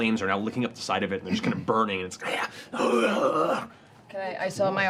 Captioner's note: rasping cry